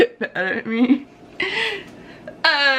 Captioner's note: chuckles